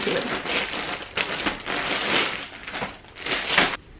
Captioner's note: rustles